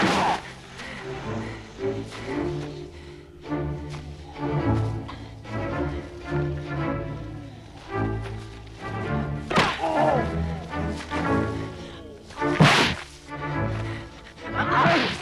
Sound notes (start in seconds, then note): 0.0 Torente grunts; 9.8 Torente groans; 12.6 punch slams